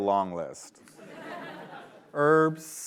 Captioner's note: laughter